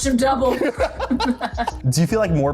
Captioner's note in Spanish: risas